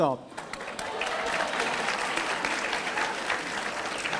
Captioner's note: audience applauding